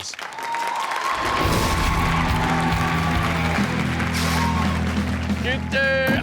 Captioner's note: crowd cheers; rock music plays